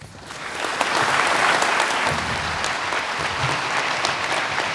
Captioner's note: audience applauding